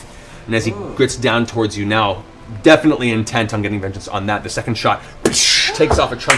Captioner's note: impact sound